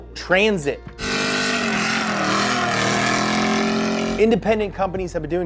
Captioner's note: engine growling